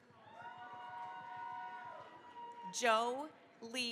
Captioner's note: cheering, applause